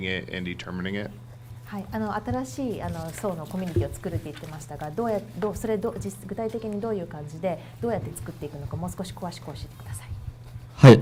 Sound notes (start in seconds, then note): 2.3 speaking foreign language